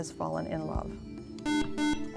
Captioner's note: buzzer